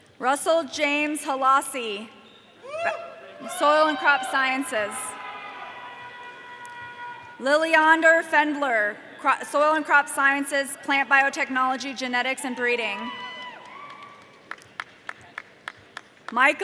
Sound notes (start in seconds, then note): 5.4 audience cheering